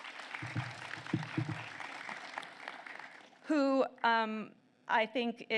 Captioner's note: applause